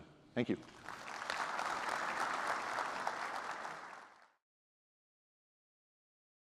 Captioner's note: applause